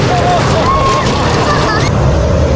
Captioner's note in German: schreien